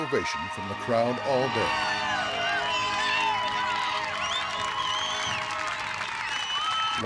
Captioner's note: cheers